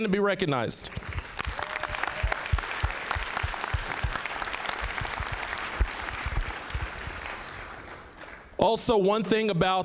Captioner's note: applause